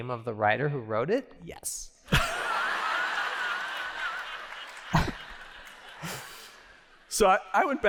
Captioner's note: laughter